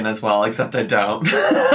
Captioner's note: laughs